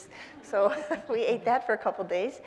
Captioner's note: audience laughing